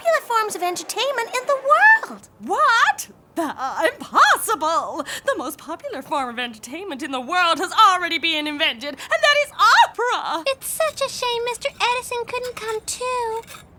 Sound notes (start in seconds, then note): none